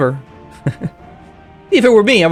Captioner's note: chuckles